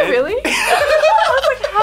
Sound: laughs; both laugh

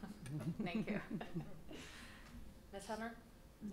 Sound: laughs

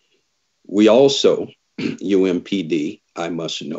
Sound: clears throat

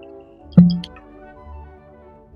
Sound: pop

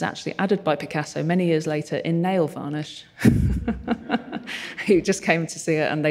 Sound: laughs

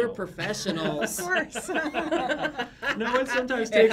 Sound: laughs

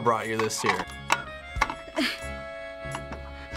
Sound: can opener clicking; grunts

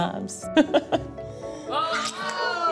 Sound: laughs

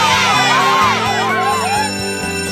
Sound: cheering; school bell rings

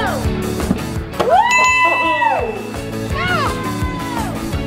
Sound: cheering

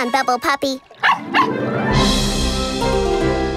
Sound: barking

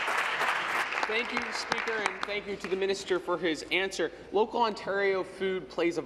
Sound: some Applause

